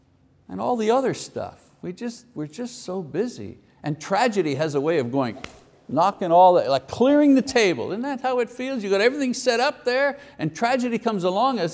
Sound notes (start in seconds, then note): 5.3 slaps hands